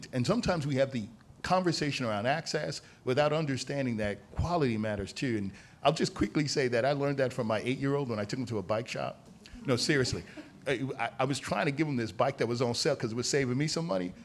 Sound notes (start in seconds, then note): 9.6 laughter